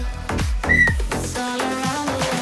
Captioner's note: Pfiff; Kraftvolle Musik